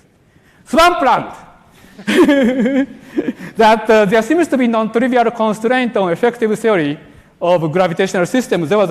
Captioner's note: laughter